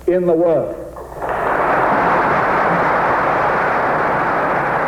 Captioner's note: audience applauds